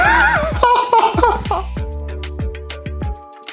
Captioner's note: laughing